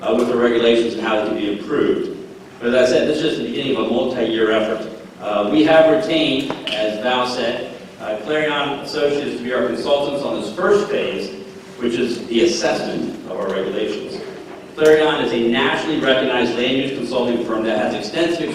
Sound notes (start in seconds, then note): none